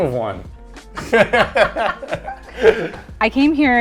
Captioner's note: both laughing